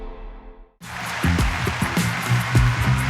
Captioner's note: applause